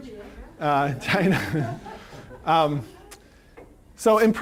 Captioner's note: laughing